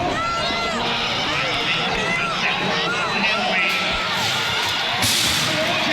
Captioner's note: cheering and hollering